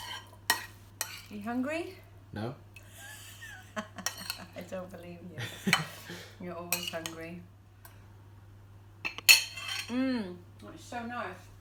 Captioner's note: laugh